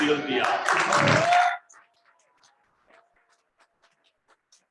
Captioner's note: crowd applauses